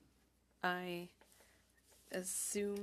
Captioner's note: speaking French